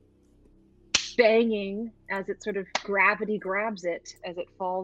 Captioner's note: claps